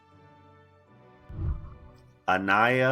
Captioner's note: whooshing